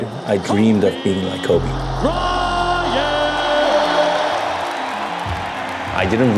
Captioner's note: crowd cheering